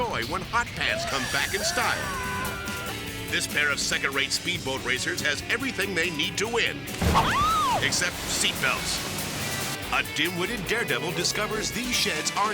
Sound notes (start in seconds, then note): 6.8 boat thuds; 6.9 water splashing; 7.2 person shrieks